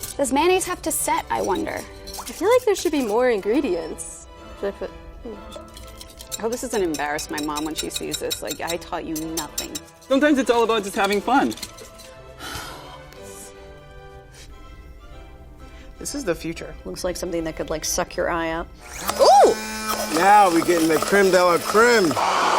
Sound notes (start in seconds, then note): 12.4 sighs; 18.8 hand blender whirring